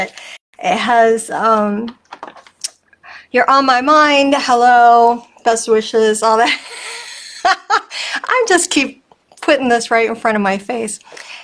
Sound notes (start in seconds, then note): 6.5 laughing